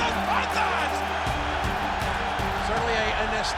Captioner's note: tense music continues; crowd cheering